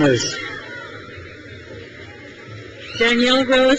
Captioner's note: crowd cheers